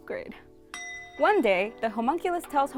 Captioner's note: ringing